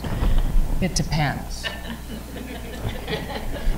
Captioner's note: audience laughter